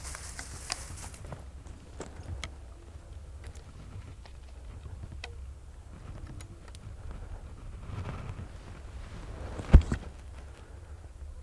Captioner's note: natural noises